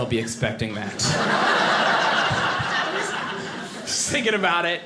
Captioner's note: audience laughing